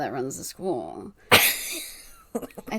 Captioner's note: laughs; laughs